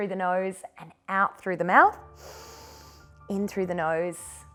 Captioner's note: inhales